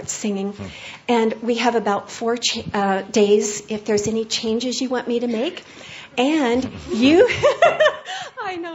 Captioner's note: giggling